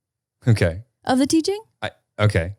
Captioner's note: laughing